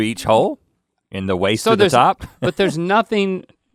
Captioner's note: laughs